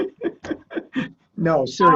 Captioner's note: laughing